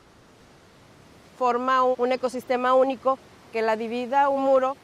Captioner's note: water rushing